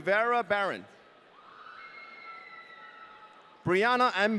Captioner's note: audience cheering